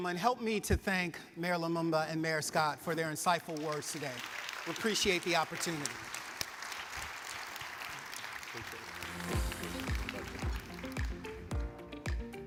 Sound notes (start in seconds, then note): 3.5 audience applauds; 8.8 upbeat music